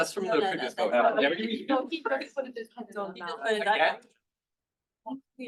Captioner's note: chattering